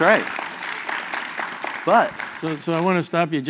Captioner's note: applause